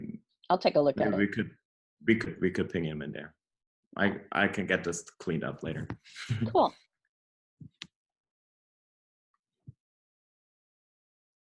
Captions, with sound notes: - I'll take a look at it. - Maybe we could ping him in there. I can get this cleaned up later (chuckles). - Cool.